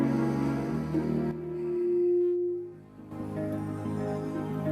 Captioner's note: inhaling and exhaling